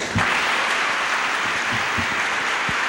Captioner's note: applause